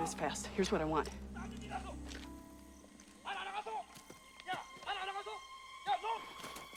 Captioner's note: man Yelling In Korean